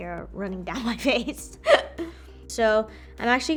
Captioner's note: laughs